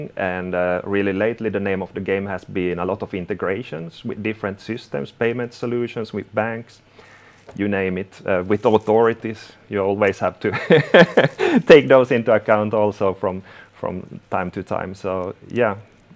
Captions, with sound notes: And really lately, the name of the game has been a lot of integrations - with different systems, payment solutions, - with banks. You name it. With authorities, you always have to [laughing] - also take those into account from time to time. So, yeah.